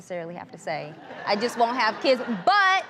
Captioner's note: audience laughs